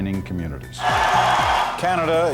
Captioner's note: cheering